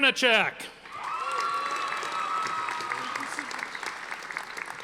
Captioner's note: audience applauding